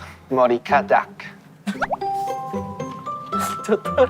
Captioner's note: laughing